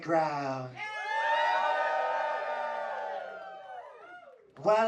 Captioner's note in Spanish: público ovacionando